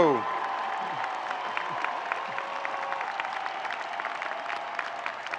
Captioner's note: audience cheering and applauding